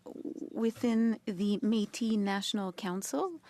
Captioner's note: speaking French